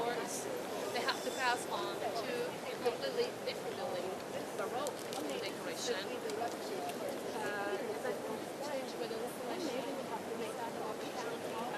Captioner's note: people chatting